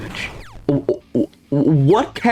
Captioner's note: stutter Moment